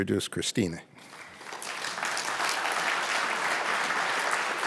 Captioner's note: audience clapping